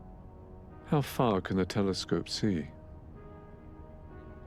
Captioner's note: voiceover